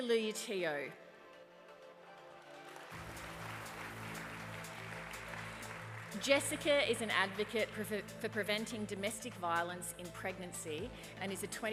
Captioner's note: applause